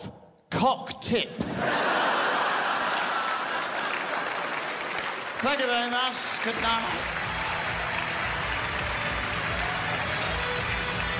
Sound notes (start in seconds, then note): 1.4 crowd laughs; 7.9 crowd applauses